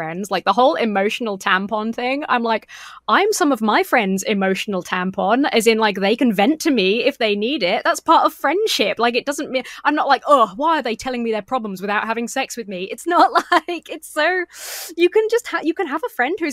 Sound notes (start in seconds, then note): 10.1 scoffs